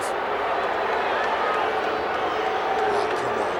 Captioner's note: crowd booing